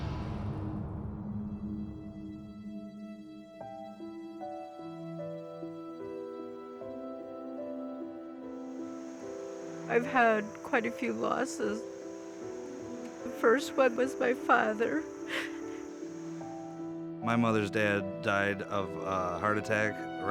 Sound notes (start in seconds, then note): 0.6 melancholic music; 9.6 choking up